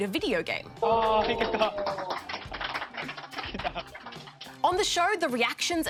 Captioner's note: applause